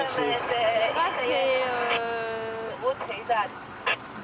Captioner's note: French spoken audio